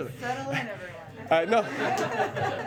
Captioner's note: laughter